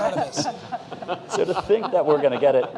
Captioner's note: laughter